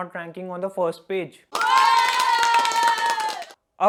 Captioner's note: cheer sound